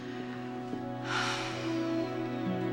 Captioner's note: sighs